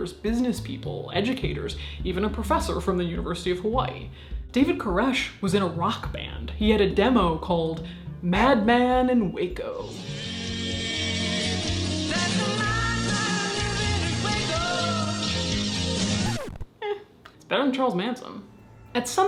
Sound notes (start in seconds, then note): 9.9 rock music; 16.4 record scratches